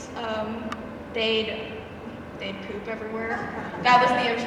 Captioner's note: audience chuckles